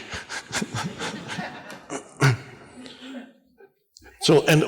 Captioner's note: scattered audience laughter